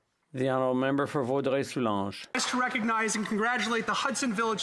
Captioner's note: some Applause